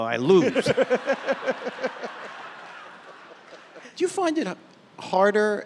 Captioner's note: audience laughing